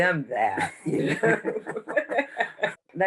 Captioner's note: all Laugh